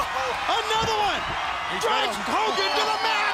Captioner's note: crowd cheering